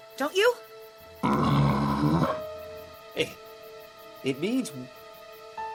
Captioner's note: Lumber Axe groaning